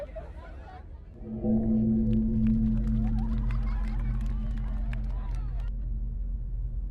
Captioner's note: TV audience clapping